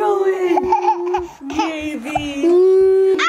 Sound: giggles

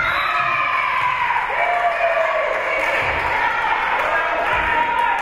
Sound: whistle being blown; spectators cheering and applauding; spectators shouting encouragements

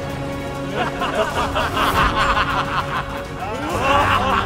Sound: laughs

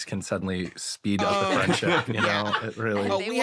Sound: laughter

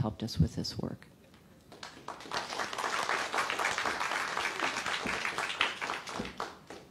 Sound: applause

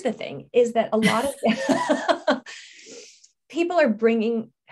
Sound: laughing

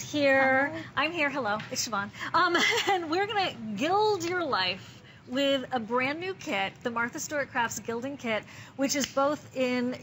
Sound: laughter

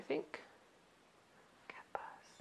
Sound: whispering

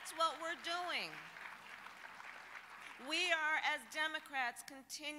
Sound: applause

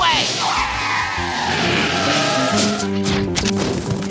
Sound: tires screeching; fruit thudding

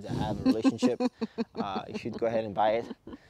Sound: woman giggles

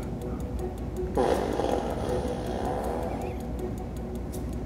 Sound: farting

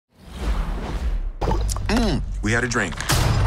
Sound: Lance gulps

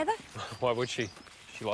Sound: laughs

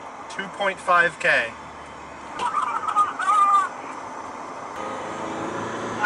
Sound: maniacal laughter heard over cell phone

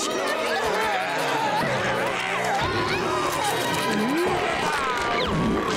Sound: groaning

